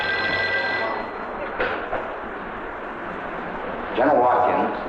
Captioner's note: phone ringing; machinery whirring